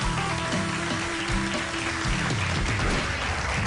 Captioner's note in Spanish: Aplausos